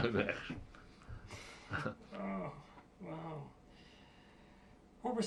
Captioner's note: laughs